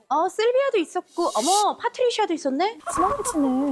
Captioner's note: pulling her away sound effect